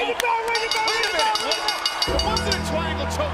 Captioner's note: bell ringing; gothic music